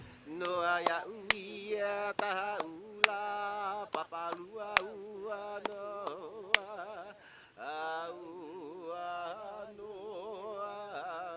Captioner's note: chanting in Hawaiian language